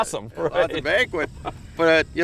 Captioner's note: laughter